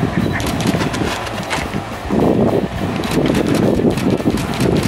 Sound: camera shutter clicking

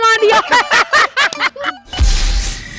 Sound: laughing

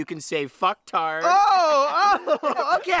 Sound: laughing

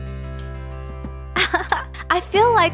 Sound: laughter

